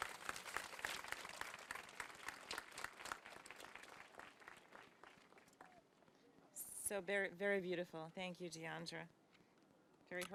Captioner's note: applause